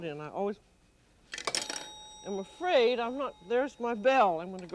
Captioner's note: timer dings